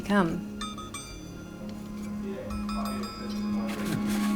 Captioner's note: metal clanging; alluring music